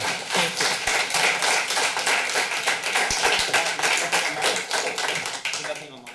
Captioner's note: applause